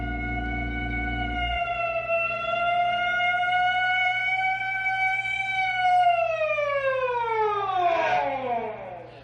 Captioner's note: siren wailing